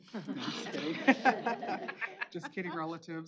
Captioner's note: laughter